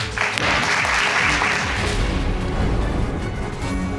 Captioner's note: applause